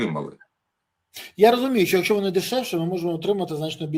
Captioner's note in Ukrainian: сопіння